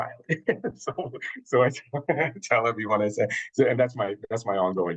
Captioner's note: chuckles